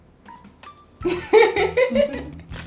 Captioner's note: laughter laughter